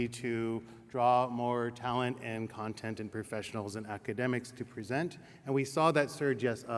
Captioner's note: none